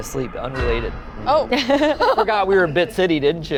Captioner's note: laughs